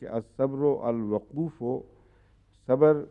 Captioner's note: Arabic